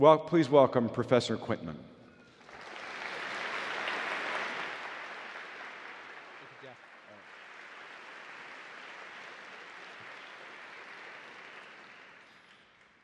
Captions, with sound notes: Please welcome professor Quintman. (audience applauding)